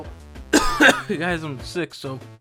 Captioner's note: coughs